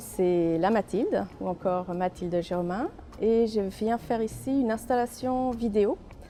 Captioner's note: speaking foreign language